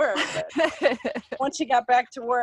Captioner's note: laughing